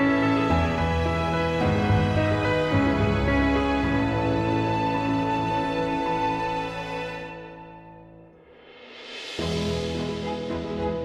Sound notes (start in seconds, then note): none